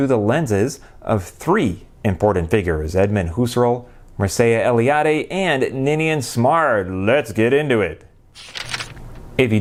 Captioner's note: page turning